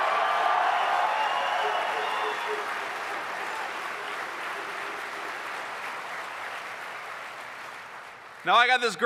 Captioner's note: applause